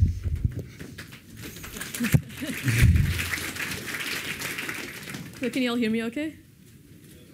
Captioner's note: applause